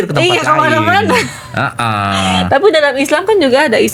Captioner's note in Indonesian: tertawa